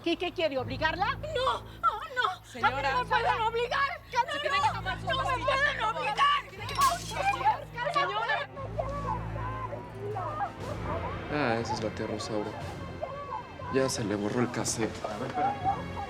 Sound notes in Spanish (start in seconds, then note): 6.6 Sonido al romper vajilla; 11.5 Gritos y exclamaciones de Rosaura